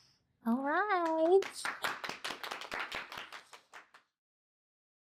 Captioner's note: audience applauding